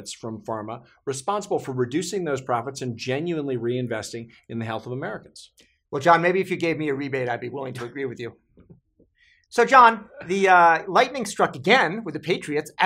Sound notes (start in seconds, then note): 8.6 chuckling